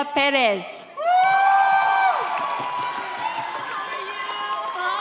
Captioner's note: audience cheers